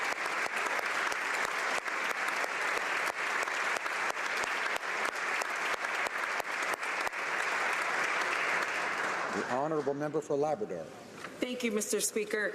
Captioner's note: applause